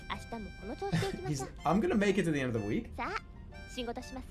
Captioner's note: chuckles